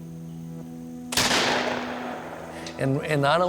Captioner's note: shot banging